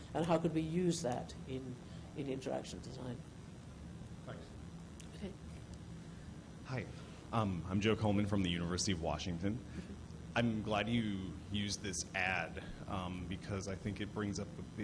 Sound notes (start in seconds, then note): 4.6 voiceover